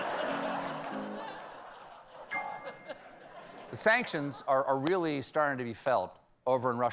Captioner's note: laughter